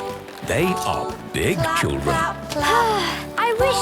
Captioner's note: Belinda sighing